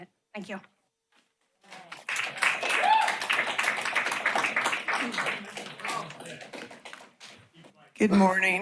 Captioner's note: applause